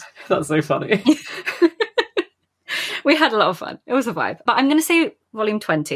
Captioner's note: laughing; laughs